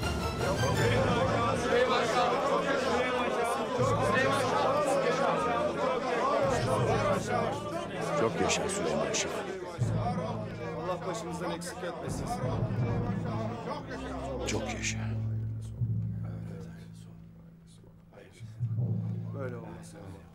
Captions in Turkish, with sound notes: (Hep bir ağızdan) Çok yaşa Süleyman Şah'ım! (Hep bir ağızdan) Çok yaşa Süleyman Şah'ım! Çok yaşa Süleyman Şah'ım! -Varol Süleyman Şah'ım. -Allah başımızdan eksik etmesin. -Varol Süleyman Şah'ım. Çok yaşa. Çok yaşa.